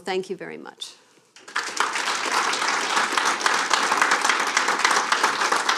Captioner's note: applause